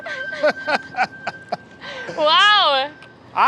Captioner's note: laughing